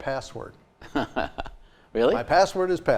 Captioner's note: chuckling